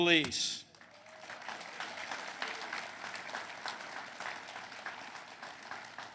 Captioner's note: applause